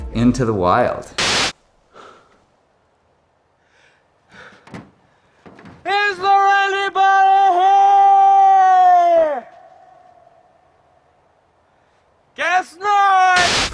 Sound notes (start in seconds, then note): 1.2 screen buzzes; 1.9 puffs; 4.6 shoes clacking; 13.4 screen buzzes